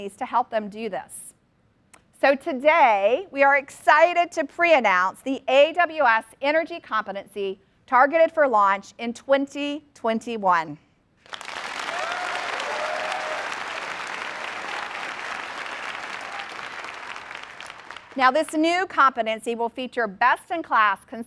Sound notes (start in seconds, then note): 11.2 applause